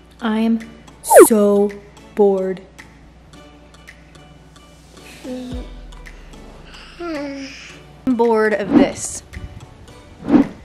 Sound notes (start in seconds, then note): 1.0 swishing; 5.3 cheerful baby moaning; 9.6 swishing